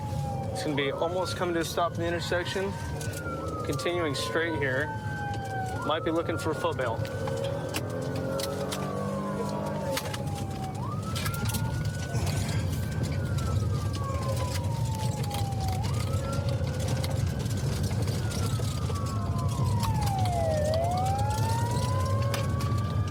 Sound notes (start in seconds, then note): 7.8 siren blaring